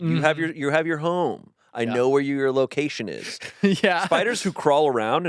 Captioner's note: laughs